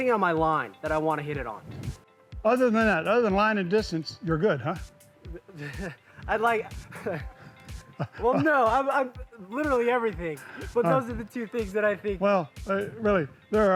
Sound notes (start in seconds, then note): 6.4 laughs; 6.6 both laugh